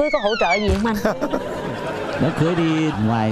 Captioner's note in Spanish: risas